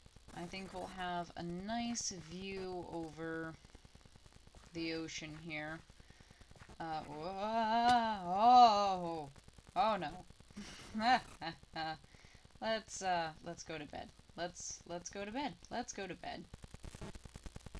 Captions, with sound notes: I think we'll have a nice view over the ocean here. Uh - oooOOOOAAAaaahh! Ohh. /panic/ Oh no. *chuckles* Let's, ah, let's go to bed. Let's, let's go to bed. Let's go to bed.